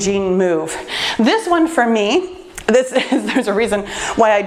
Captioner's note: laughs